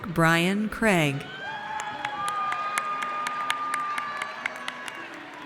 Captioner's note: audience cheers